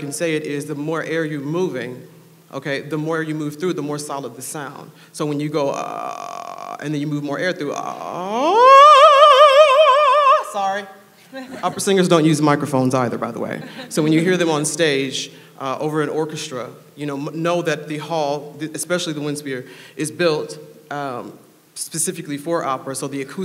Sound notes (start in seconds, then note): 6.0 low growling noise; 7.8 low growl rising to high pitch; 13.6 laughing